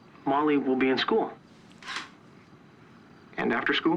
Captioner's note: scoffs